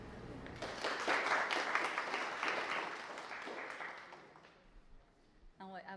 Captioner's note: applause